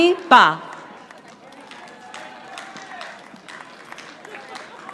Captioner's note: audience applauding